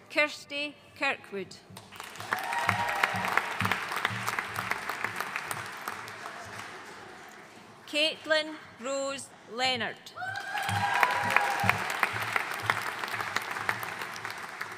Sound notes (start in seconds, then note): 1.9 audience cheering and applauding; 10.2 audience cheering and applauding